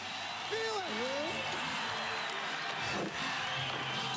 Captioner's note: crowd cheering